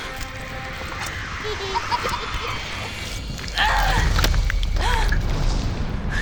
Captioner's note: puppets continue laughing